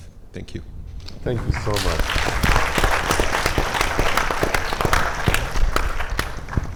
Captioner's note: audience applauding